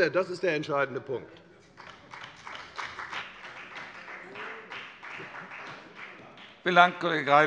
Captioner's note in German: Beifall bei der FDP